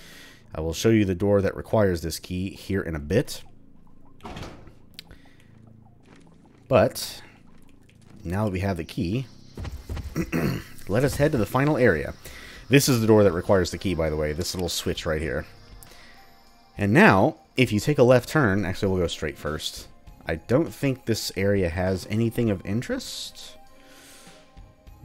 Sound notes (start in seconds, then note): 10.1 clears throat